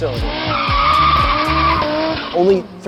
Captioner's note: car screeches